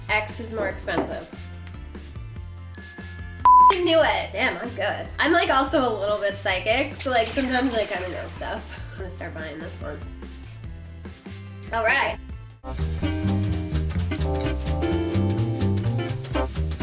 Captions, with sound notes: X is more expensive. (bell rings) (beep) knew it! Damn I'm good. I'm like also a little bit psychic. So like sometimes I kind of know stuff. I'm gonna start buying this one. All right. (Jazz music)